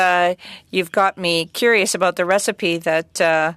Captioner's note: speaking French